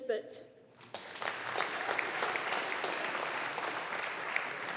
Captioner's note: audience applauding